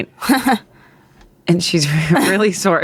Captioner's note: chuckles